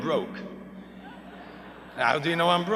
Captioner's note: laughter